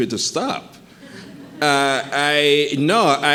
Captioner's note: audience chuckling